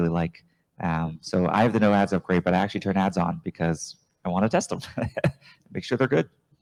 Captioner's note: chuckles